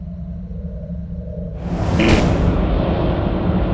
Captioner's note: buzzing